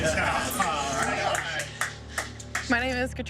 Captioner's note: applause and cheering